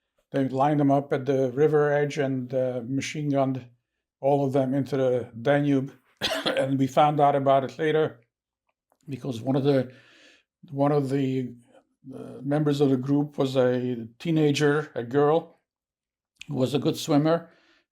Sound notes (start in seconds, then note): 6.2 coughing